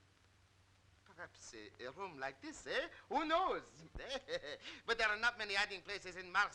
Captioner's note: laughing